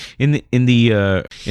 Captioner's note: uh